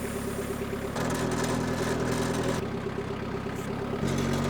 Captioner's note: machine hissing; machine revving